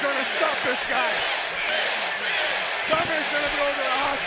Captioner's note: crowd chants "Sid"